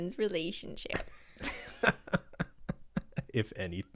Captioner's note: laughs